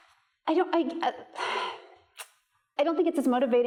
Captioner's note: sighs